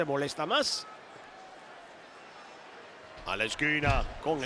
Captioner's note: applause